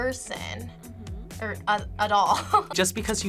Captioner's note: laughs